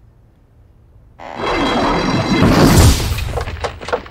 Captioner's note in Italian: scricchiolio